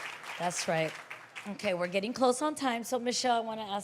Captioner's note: applause